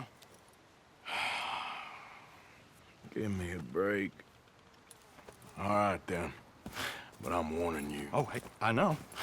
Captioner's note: sighs